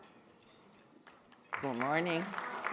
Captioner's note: audience clapping